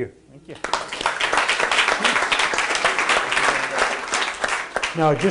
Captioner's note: audience applauding